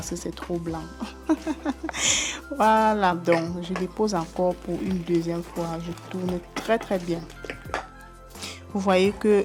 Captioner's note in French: rires